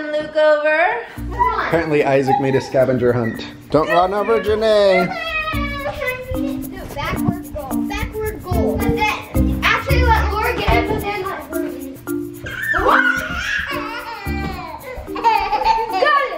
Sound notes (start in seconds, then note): 5.2 children yelling; 8.9 children talking; 12.4 toddler laughs; 12.4 toddler shouts